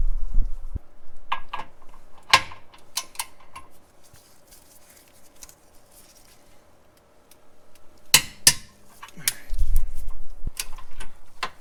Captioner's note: torque wrench clicking